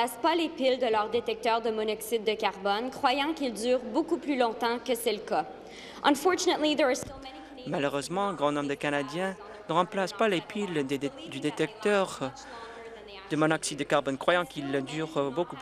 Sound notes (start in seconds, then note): 0.9 speaking in French